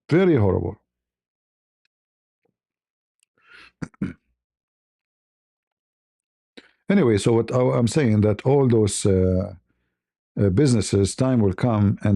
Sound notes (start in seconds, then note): 3.5 berdehem